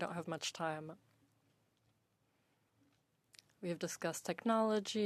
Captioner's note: speaking French